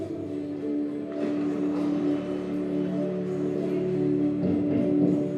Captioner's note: water sounds